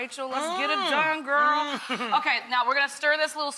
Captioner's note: Rachael chuckles